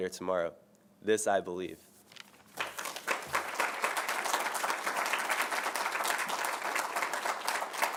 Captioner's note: applause